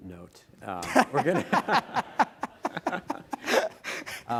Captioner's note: everyone laughing